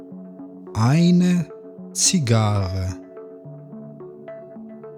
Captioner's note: german